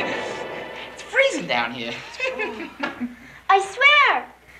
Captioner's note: laughs